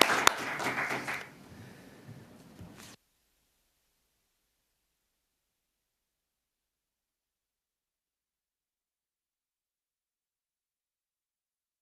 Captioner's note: applause